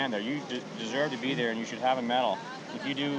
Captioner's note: none